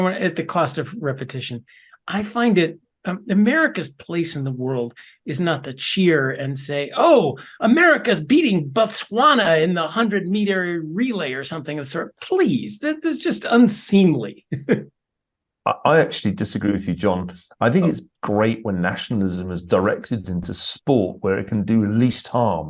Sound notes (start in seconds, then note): 14.4 laugh